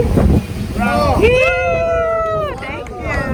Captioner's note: people cheering